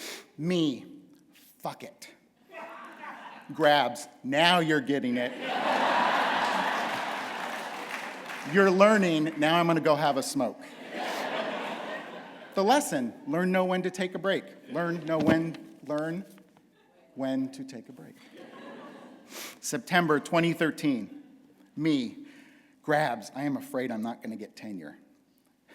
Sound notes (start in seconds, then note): 5.3 laughter